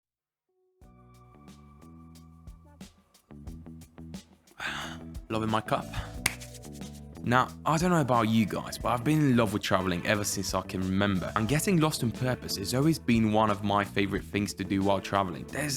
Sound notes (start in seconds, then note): 0.8 mellow jazz music; 4.6 sighs; 5.9 hands clap